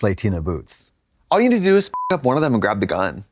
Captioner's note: beep